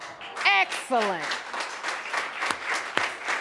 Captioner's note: audience applauding